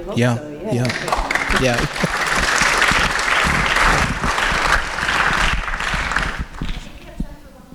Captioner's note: applause